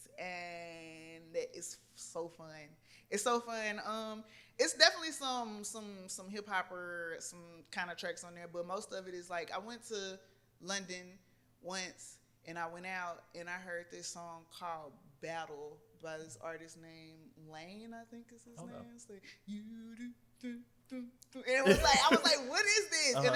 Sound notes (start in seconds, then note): 20.4 humming